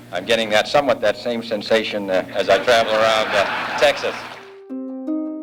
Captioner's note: laughter